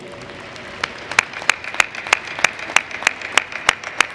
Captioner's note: applause